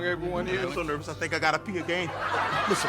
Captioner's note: audience laughs